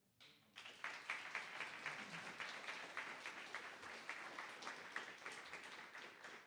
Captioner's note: applause